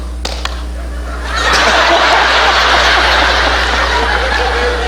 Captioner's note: all clapping; audience laughing